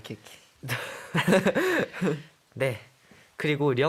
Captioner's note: tertawa